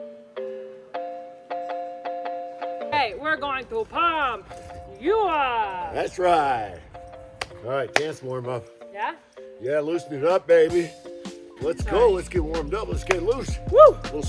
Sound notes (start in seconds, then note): 0.1 happy music; 7.9 hands clapping